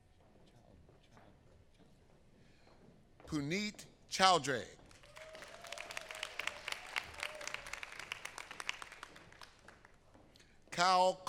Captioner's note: applause